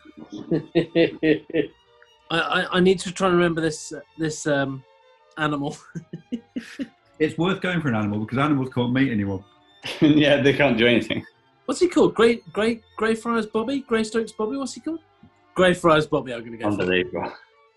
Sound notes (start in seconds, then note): 0.3 chuckling; 5.4 chuckling